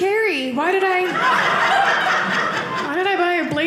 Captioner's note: audience laughing